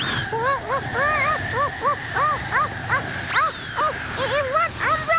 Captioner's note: wind blows